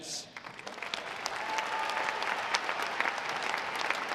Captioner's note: audience applauding